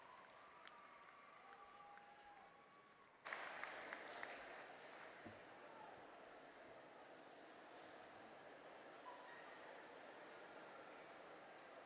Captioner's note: cheers and applause